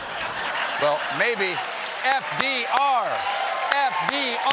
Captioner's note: laughter; cheers and applause